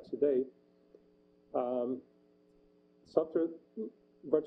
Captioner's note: pause